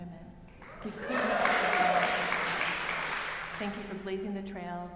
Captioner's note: audience cheering and applauding